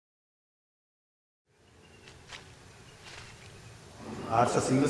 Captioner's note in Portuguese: Sons da natureza: sementes sendo jogadas na terra